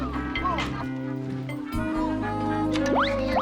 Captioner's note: laughs; zooming